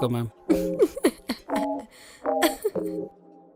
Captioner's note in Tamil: சிரிப்பு